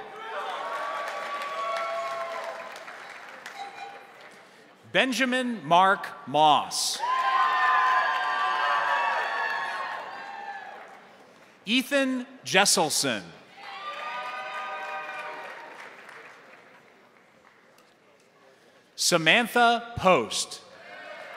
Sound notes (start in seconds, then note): 0.0 crowd cheering; 0.0 crowd applauding; 6.9 crowd cheering; 7.0 crowd applauding; 13.5 crowd cheering; 13.6 crowd applauding; 20.8 crowd cheering; 20.8 crowd applauding